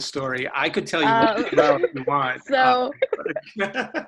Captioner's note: laughs